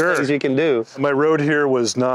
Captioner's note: laughs